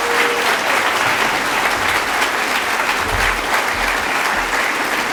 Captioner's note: applause